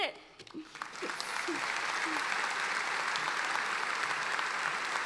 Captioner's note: applauding